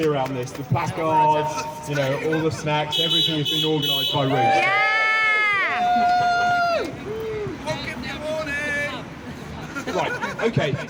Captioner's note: applause